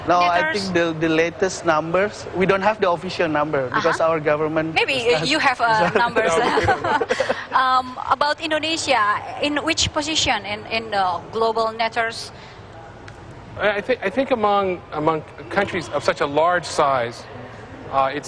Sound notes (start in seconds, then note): 5.7 laughter